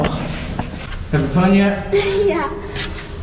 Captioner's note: laughs